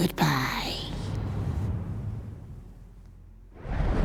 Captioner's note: air whooshing